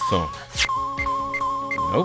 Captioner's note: rapid beeping!